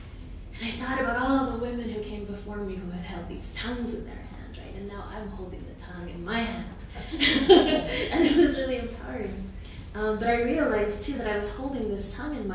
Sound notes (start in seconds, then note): 7.0 laughing